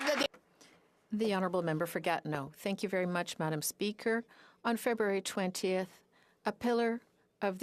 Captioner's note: applause